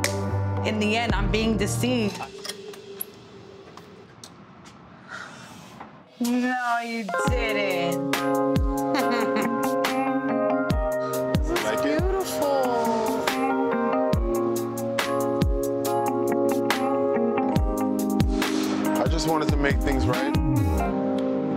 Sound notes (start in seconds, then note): 7.0 smooth romantic music; 8.8 Erica laughs